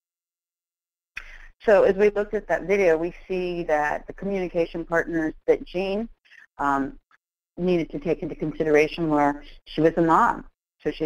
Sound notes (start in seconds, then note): 1.6 voiceover